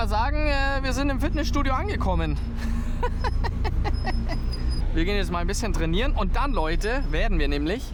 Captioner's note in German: gelächter